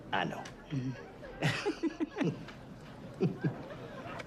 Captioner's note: laughs